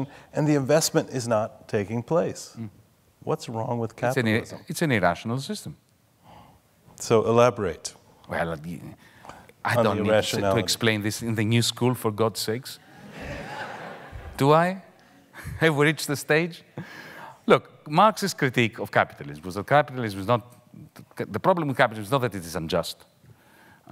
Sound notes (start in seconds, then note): 12.9 audience laughing